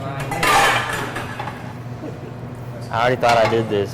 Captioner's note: clattering